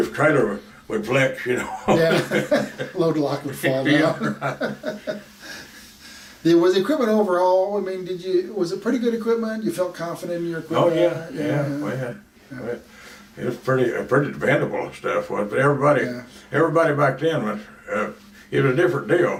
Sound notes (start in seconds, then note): 1.6 laughs; 5.3 both laugh